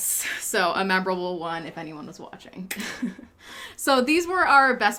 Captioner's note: chuckles